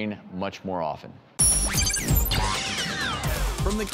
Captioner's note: robot sounds